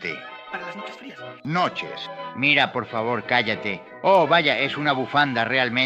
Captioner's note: in spanish